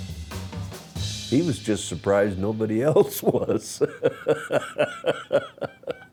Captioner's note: laughs